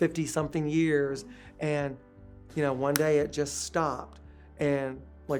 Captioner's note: snaps fingers